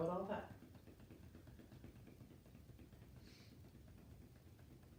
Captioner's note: gentle tapping